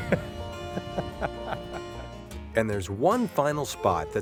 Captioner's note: laughter